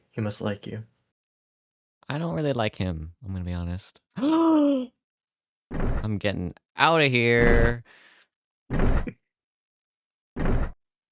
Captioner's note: gasp